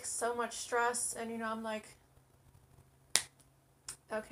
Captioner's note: claps hand together